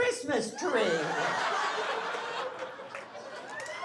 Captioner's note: laughing